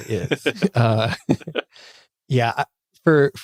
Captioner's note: giggling